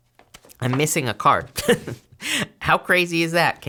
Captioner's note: laughs